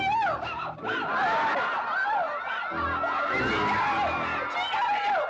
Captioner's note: crowd laughing